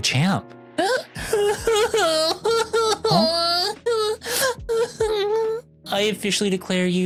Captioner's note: crying